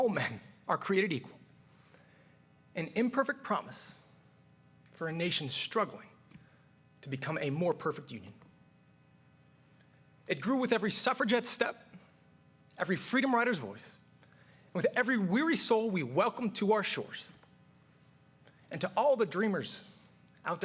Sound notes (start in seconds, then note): none